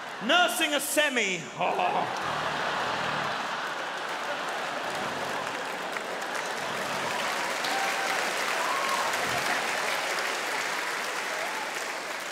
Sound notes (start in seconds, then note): 1.4 audience laughing; 4.9 audience clapping; 7.5 audience cheering